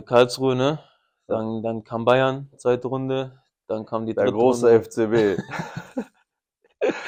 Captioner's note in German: gelächter; japst